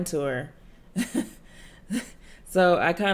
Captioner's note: chuckles